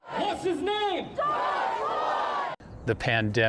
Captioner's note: crowd